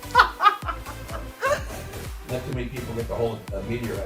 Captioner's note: laughs